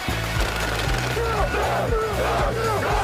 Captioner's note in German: Rattern, Anfeuerungsrufe